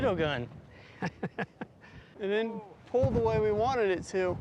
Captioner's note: laughing